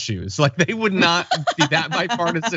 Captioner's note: laugh